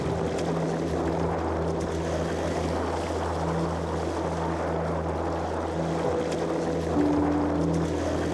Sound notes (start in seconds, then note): 1.4 wind gusting